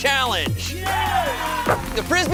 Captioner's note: guys cheering